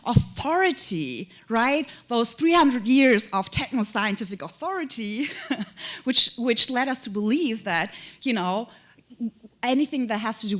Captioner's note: chuckle